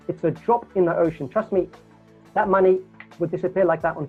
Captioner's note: snaps fingers